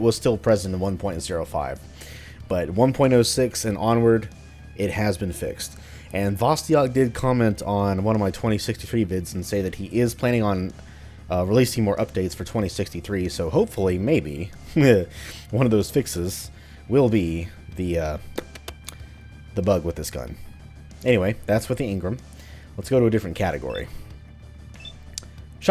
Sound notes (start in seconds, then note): 14.6 chuckles; 18.3 thinking sounds